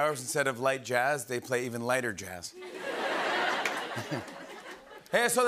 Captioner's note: laughter